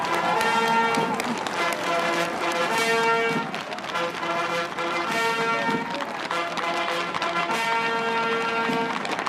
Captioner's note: cheers and applause